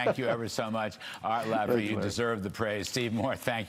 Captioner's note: laughter